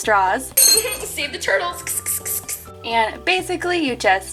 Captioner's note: laughs